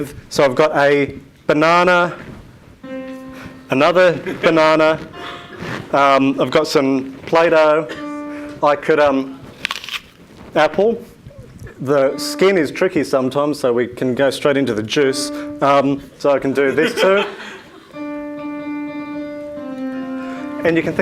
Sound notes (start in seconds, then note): 9.4 crunches; 16.4 audience laugh; 17.9 piano music